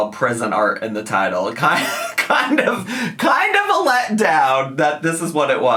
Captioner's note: laughs